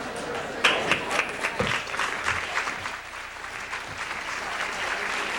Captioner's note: audience applauds